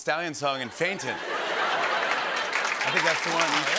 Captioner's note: laughter